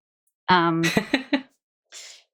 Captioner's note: laughs